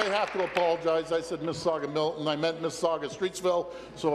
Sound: applause

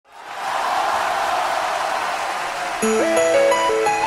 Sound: crowd cheering; instrumental

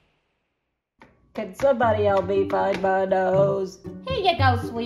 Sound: in a nasally voice

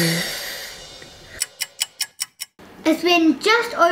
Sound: drum noise; sound of clock ticking

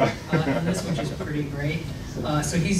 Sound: laughing

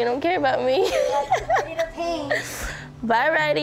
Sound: laughing

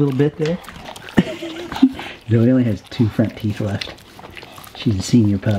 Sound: laughs

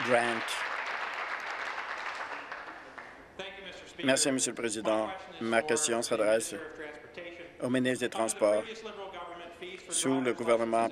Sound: applause

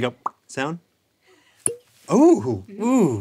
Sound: pop; satisfying pop

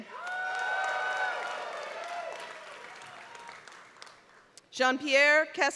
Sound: applause

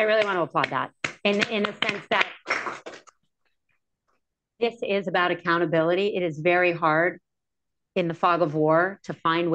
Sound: applause

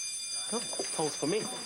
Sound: bellin rgi ng

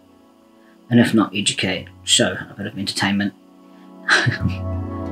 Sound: laughs

